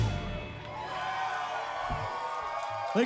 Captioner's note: cheering